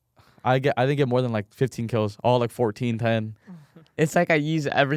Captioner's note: laughs